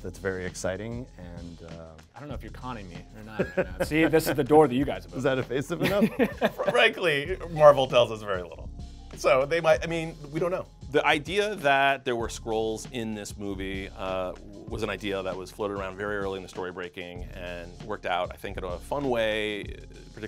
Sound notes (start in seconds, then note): 5.8 laughing